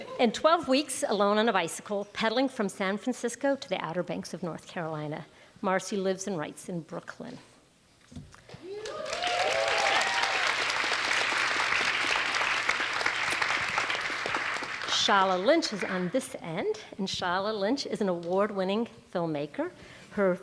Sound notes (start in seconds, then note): 10.0 audience applauds; 10.9 audience cheers